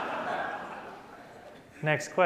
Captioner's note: laughter